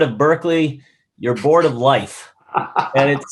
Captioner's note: laughs